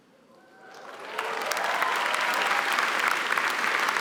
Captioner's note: applause